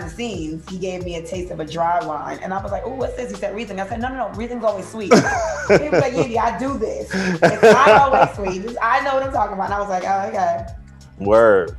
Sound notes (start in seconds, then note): 5.0 laughter